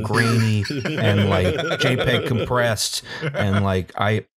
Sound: laughter

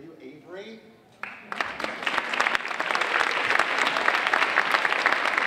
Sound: audience applauding

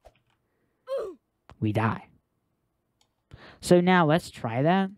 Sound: oof sound

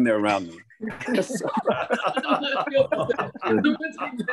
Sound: laughter

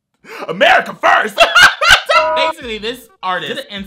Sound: cackles

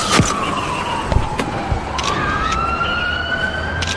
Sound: police radio

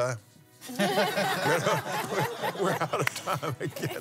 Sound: laughs

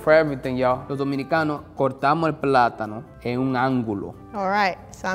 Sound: speaking in foreign language

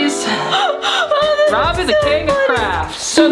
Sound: laughs

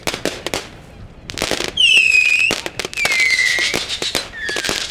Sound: fireworks whistling

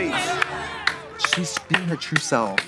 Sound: audience cheering

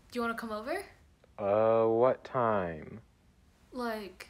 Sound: over the Phone

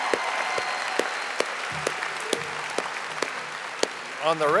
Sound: audience applauding and cheering

